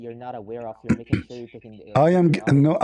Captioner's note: clears throat